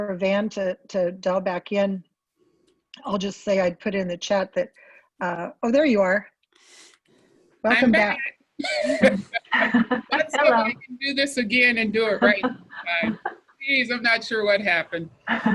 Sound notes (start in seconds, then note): 8.6 laughs